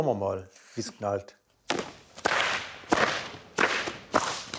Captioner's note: loud snapping